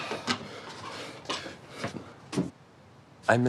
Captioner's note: none